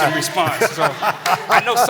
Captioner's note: laughter